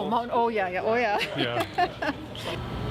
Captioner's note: laughing